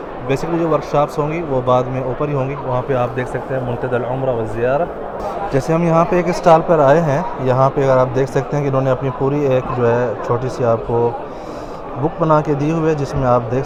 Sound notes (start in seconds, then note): 3.5 Arabic